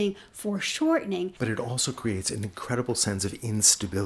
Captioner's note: voiceover